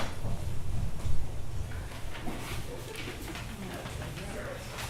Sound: group chattering

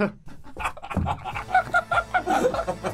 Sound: uncontrollable laughter

